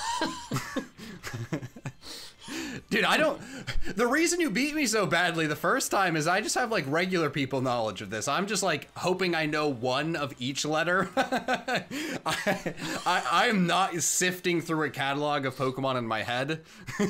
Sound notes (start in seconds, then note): 0.0 laughter; 11.1 laughs